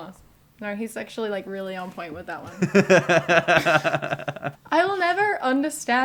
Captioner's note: laughter